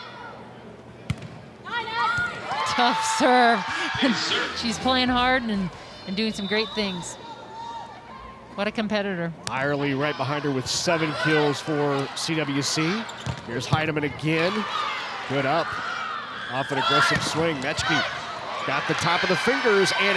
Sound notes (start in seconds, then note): 1.0 ball thumping